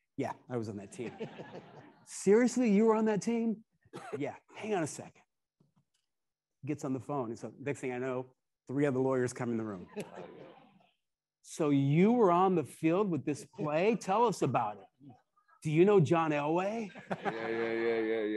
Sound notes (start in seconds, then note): 0.9 attendees laughing; 9.8 attendees laughing